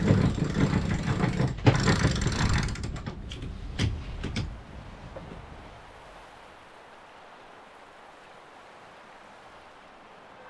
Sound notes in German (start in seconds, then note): 5.2 Luftrauschen